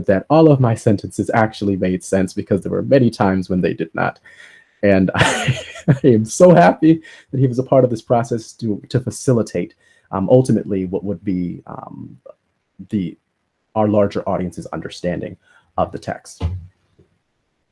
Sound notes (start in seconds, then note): 5.2 laughs